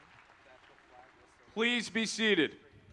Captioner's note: applause